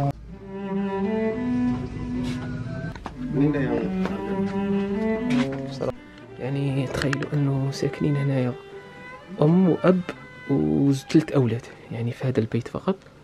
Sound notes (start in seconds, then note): 0.0 engine sound; 3.1 speaking Indonesian